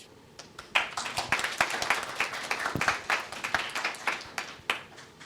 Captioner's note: audience applauding